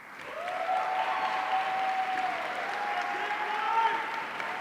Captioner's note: audience cheering